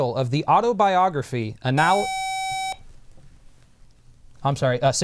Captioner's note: buzzer